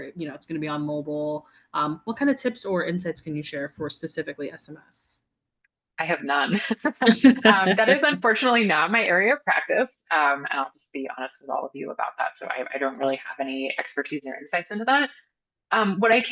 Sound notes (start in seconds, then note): 6.8 both laughing